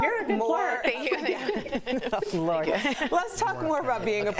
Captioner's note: laughter